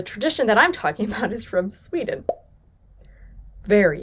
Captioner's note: image pops